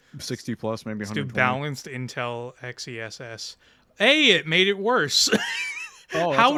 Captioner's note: laughter